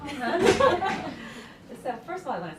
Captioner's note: laughter